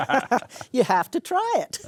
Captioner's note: laughing